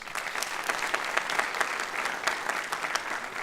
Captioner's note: applause